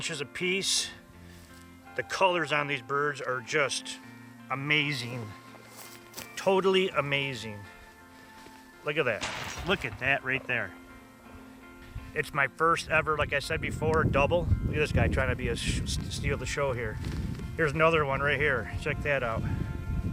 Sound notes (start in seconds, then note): 9.2 gunshot